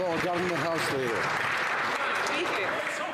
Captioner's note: some Applause